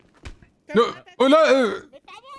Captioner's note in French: Dona balbutie